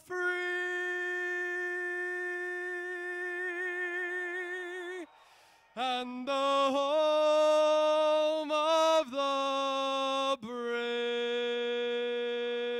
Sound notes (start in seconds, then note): 0.6 cheers and applause